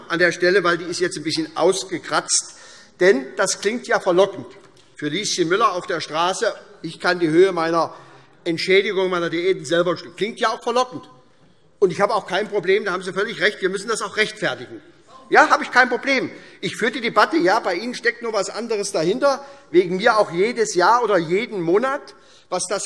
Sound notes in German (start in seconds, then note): 15.1 Zuruf